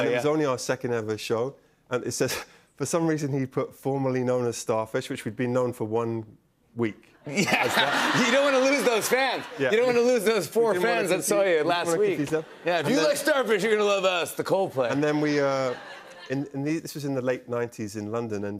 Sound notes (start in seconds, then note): 7.3 laughter